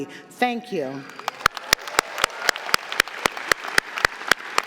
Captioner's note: audience clapping